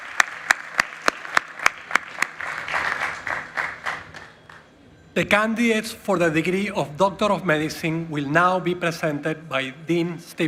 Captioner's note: applause